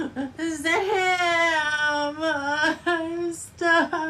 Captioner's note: crying